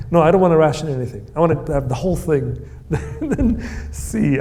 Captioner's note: laughs